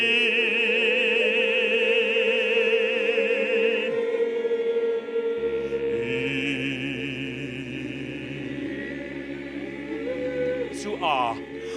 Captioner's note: they make dog noises